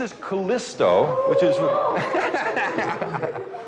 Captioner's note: sagan laughs